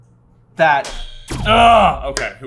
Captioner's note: buzzer